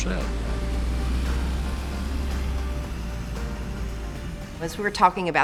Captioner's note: vehicle engine rumbling